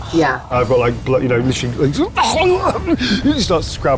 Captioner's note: grunts